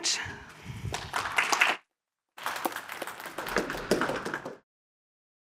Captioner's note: applause